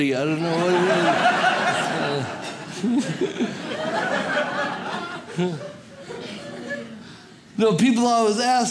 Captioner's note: audience laughs